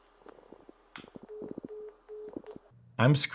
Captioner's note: phone beeping